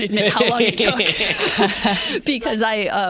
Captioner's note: laughter